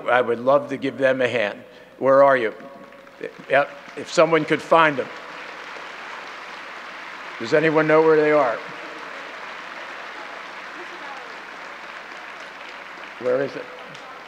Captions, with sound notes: I would love to give them a hand. Where are you? (audience clapping) If someone could find them. Does anyone know where they are? Where is it?